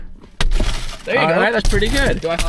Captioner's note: glass shattering